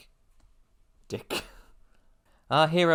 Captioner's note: laughs